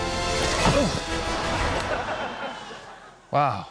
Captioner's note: grunts